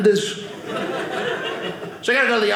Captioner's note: audience laughing